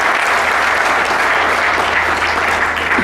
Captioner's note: applause